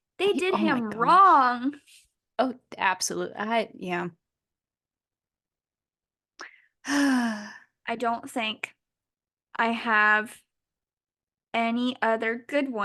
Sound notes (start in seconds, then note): 6.9 sighs